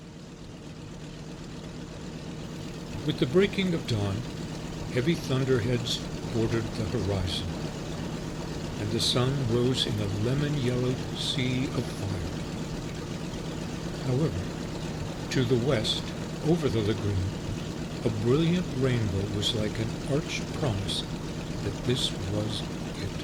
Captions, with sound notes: (aircraft engines sounding) With the breaking of dawn, heavy thunderheads bordered the horizon, and the sun rose in a lemon yellow sea of fire. (airplane engines sounding) However, to the west over the lagoon, a brilliant rainbow was like an arched promise that this was it.